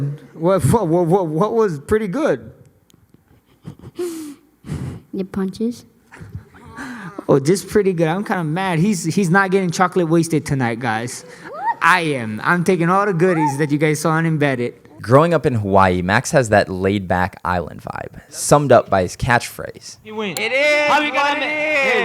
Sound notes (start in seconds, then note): 3.3 giggles